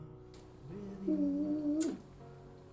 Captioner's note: smooches